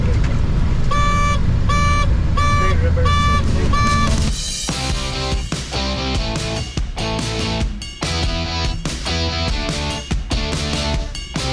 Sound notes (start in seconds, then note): 1.6 electric beeps; 3.1 energetic music